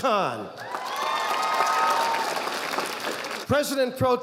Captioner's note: audience applauding